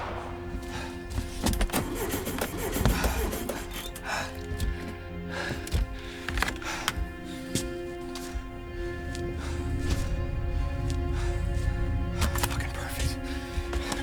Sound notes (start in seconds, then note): 1.5 engine sputtering